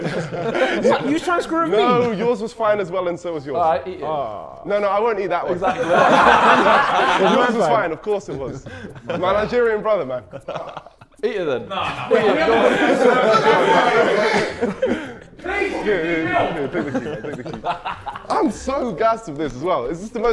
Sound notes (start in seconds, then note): 0.0 Sidemen laughing; 5.4 Sidemen laughing; 10.8 Joshua laughing; 13.3 Sidemen laughing